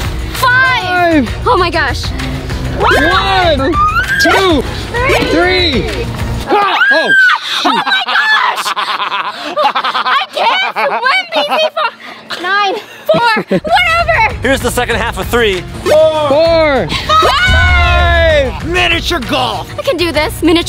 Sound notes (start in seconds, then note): 6.5 laughs loudly; 6.5 screams loudly